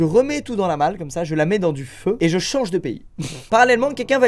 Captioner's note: laughs